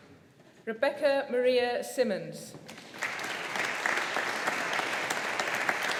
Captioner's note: audience applauding